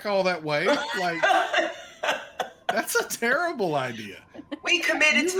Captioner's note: laughs loudly; laughs